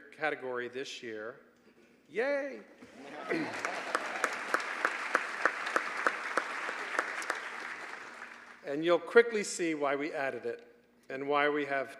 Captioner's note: applause